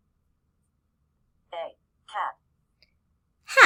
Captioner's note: computer voice; computer voice